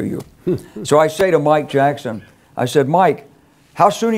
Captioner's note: laugh